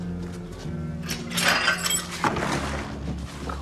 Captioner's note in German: Klirren